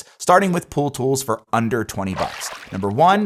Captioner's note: water splashing